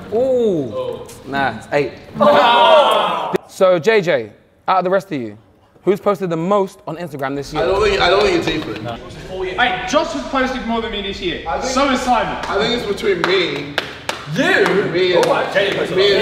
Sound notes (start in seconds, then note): 2.2 group aah's in disappointment